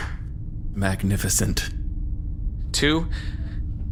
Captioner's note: Two snaps his fingers, applauds slowly